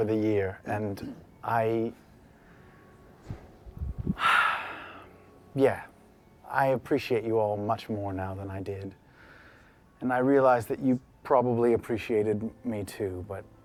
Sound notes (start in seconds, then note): none